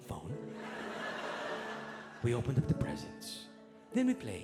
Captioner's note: audience laughing